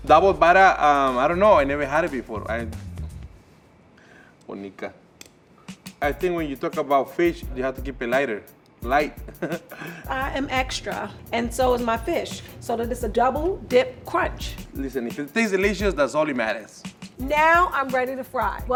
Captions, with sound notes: Double batter, I don't know, I never had it before, I... [speaks in Spanish] I think when you talk about fish, you have to keep it lighter, light. [laughs] - I am extra, and so is my fish, so that it's a double dip crunch. - Listen, if it tastes delicious, that's all that matters. - Now I'm ready to fry.